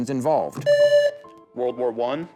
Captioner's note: buzzer